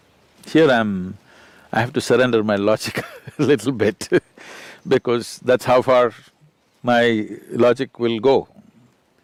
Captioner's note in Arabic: يضحك